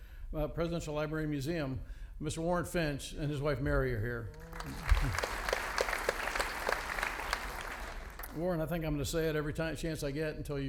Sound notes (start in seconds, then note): 4.3 audience applauding